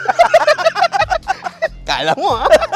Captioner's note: both laugh